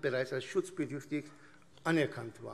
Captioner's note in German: none